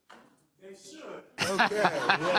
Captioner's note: laugh